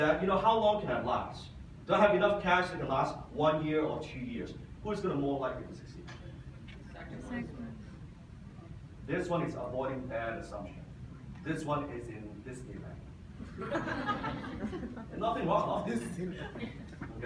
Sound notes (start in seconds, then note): 13.4 audience laughs